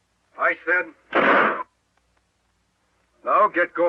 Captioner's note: gun fires